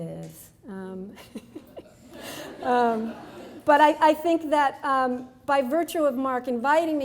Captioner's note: laughs